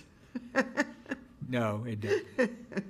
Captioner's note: laughing